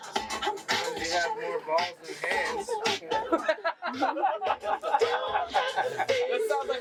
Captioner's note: laughs